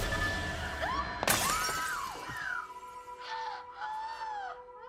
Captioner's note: Anna screams; suspenseful music; casserole dish shatters; Anna gasps